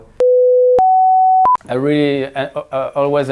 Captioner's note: beep